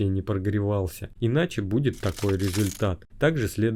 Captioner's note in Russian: звук битого стекла